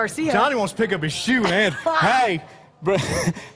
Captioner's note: laughter